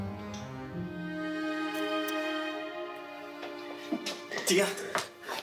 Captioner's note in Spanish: Sollozos